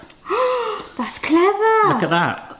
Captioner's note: gasps